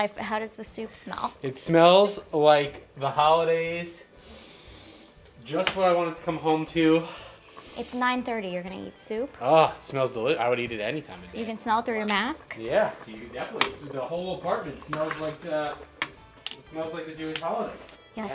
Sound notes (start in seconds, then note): 4.1 inhaling